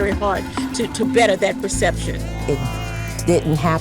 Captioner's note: people cheering